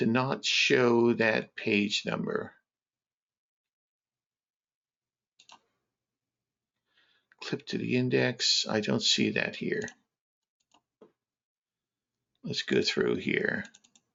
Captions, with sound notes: to not show that page number. (mouse clicking) Clip to the index, I don't see that here. Let's go through here.